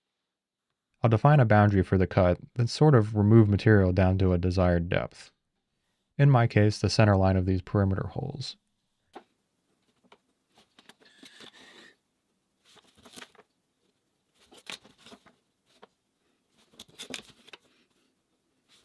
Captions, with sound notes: I'll define a boundary for the cut that sort of remove material down to a desired depth. In my case, the center line of these perimeter holes. (paper shuffling)